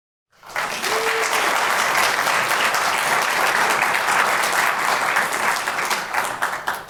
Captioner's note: applause